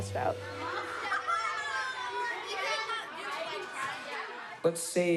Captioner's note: students chattering